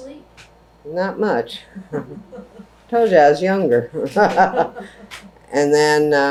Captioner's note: laughter